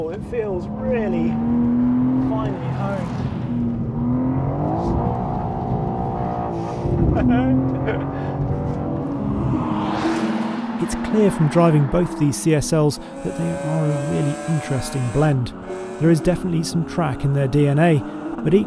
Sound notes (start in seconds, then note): 4.3 car engine revving; 7.0 laughing